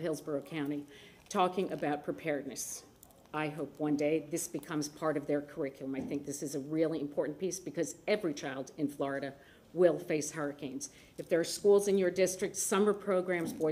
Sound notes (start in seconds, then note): none